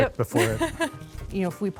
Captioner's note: laughs